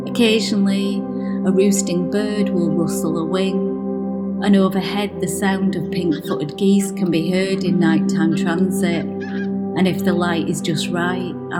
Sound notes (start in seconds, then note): 8.0 geese honking